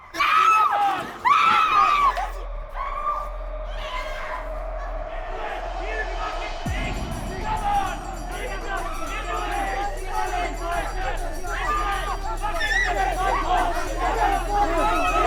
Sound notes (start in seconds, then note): 1.2 woman screaming; 2.0 tense music; 8.1 gangsters jeering; 8.7 suspenseful music